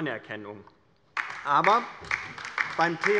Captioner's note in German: Beifall bei der LINKEN